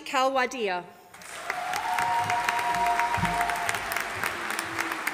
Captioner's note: audience applauding